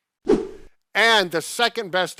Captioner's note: screen whooshing